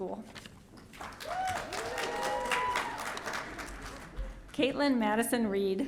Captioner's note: audience cheering